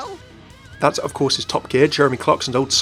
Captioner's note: voiceover